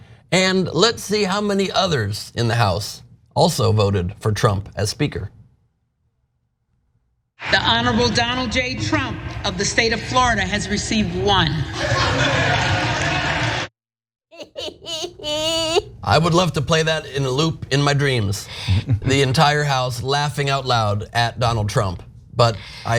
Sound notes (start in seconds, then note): 14.3 laugh